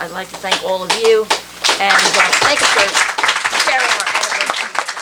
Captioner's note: applause